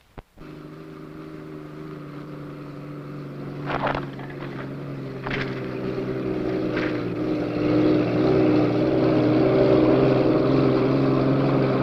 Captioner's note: truck engine roaring